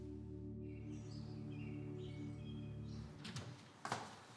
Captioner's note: birds chirping; door creaking